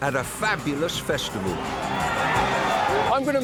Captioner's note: crowd cheers